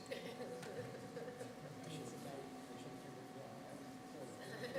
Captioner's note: laughing